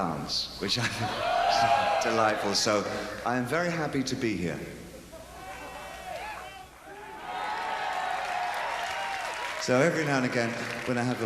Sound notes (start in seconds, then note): 5.4 cheering